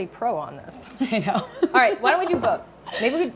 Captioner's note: chuckles